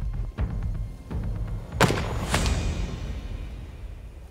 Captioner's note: gunshot